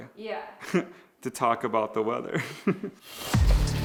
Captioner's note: laughs; energetic music